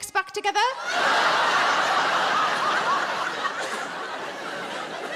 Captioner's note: audience laughing